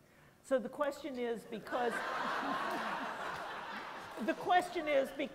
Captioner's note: laughter